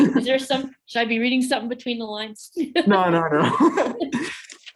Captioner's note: laughing